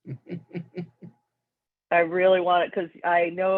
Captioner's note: chuckles